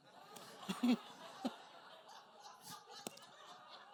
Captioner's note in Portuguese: risos da plateia